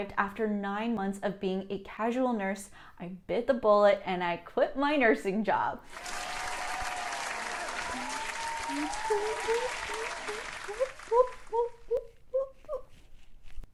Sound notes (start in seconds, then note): 5.8 cheers and claps